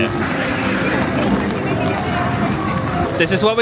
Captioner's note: thunder crackles